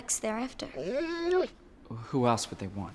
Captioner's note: dog whimpers